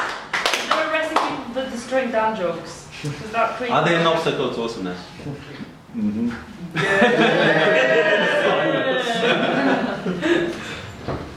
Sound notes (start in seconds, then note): 6.6 laughing